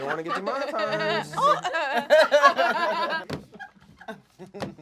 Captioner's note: laughing